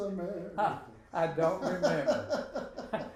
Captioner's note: laughing